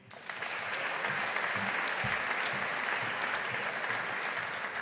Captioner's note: audience applauding